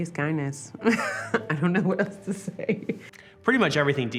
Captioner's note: laughs